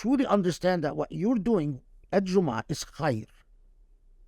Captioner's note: speaking Arabic